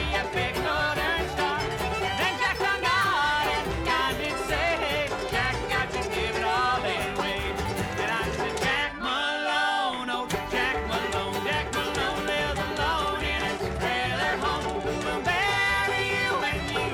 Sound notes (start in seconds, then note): 0.9 audience cheering; 3.9 twangy music